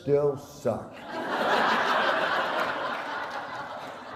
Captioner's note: laughter